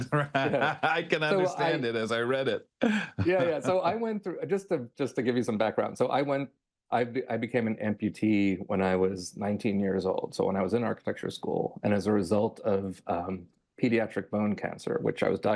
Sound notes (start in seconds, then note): 0.0 laughs